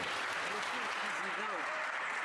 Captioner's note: some Applause